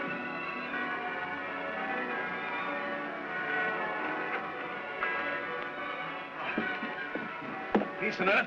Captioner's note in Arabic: موسيقى عاطفية مشؤومة; أجراس تدق